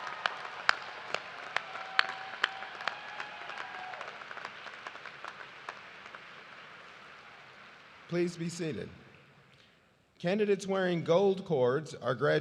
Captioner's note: cheers and applause